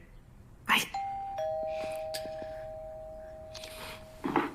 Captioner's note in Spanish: Timbre al sonar